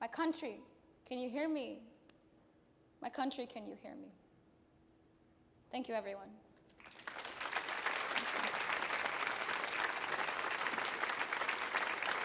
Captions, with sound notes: My country, can you hear me? My country, can you hear me? Thank you everyone. (audience applauding)